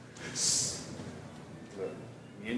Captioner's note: man shushing